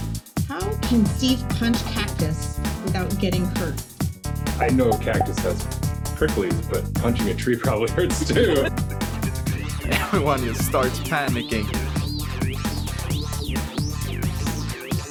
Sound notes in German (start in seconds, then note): 7.9 alle lachen